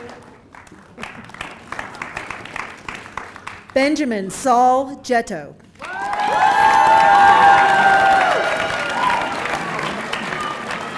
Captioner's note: applause